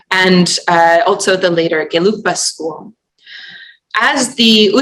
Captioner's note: non-english